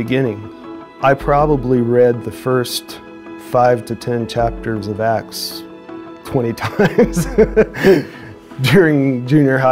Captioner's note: laughs